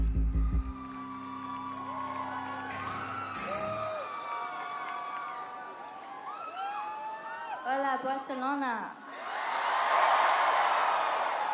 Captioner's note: crowd cheering